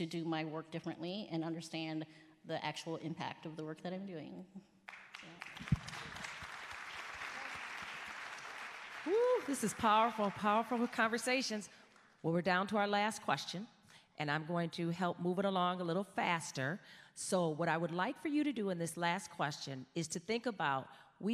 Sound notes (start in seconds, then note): 4.8 applause